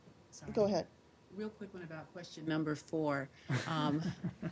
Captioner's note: laughter